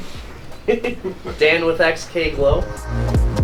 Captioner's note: laughing